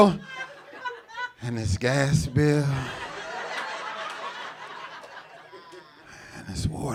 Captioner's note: audience laughing